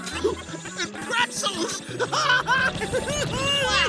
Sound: giggling

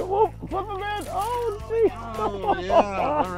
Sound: laughs

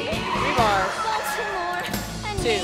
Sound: car tires squealing

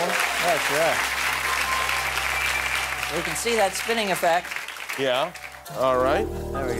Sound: applause

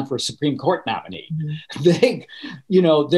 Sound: laughing

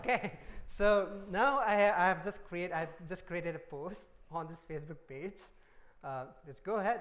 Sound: laughter

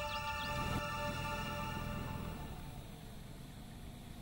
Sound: boat engine idling

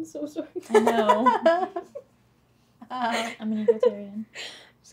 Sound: laughter

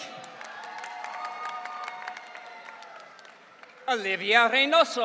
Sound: audience cheering

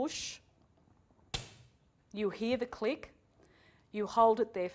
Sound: click!

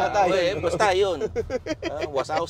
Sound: laughs

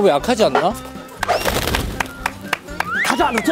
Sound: flapping

